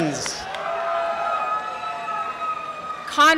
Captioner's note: cheering and applause